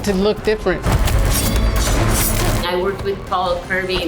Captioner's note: weapons clashing